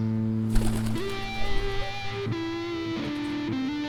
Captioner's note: wings flapping